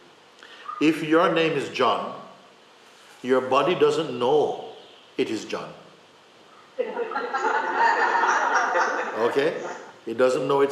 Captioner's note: laughter